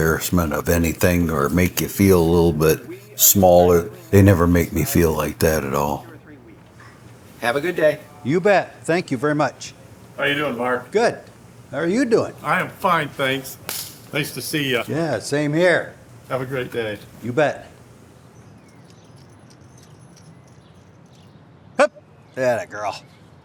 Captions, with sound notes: >>You bet, thank you very much. >>How you doing, Mark? >>Good, how are you doing? >>I'm fine, thanks. Nice to see you. >>Yeah, same here. >>Have a great day. >>You bet. (birds chirp) Hup, attagirl. Good girl. Sophie has a GPS and wherever I take her,